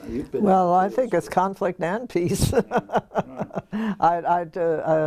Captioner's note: laugh